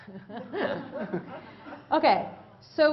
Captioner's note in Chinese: Laughter; 笑聲